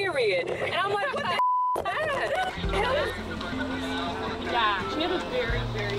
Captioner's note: beeping